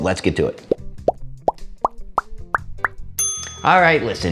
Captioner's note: bubbles popping; bell ringing